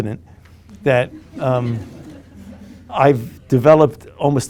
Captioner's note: group laughing